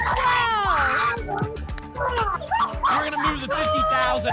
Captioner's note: applause and cheering cont